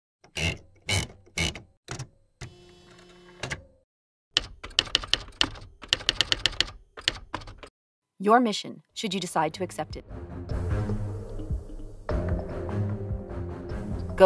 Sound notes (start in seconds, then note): 4.3 typing on typewriter